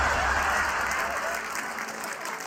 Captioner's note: laughter